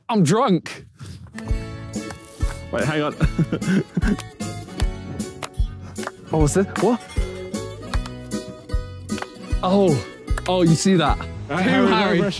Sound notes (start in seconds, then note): 1.4 classical music begins; 4.2 Sidemen clapping